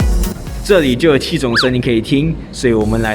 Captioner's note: sounds from outer space